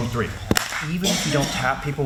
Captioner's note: claps